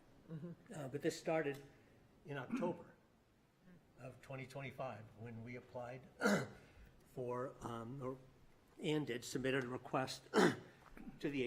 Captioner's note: clears throat